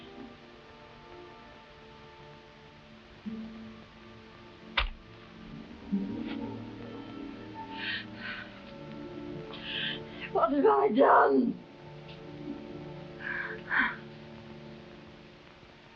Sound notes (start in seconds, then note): 0.5 soft forlorn music; 13.7 crying